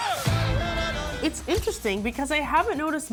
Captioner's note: roars; yells